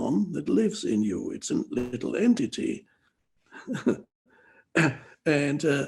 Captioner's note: chuckles